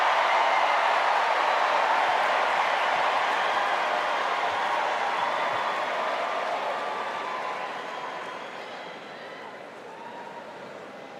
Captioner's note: cheers and applause